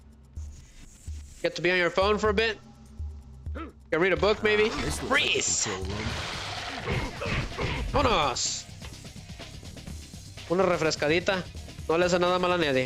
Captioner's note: groaning